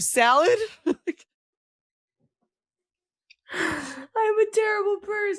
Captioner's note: laughing